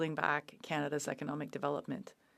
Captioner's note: speaking French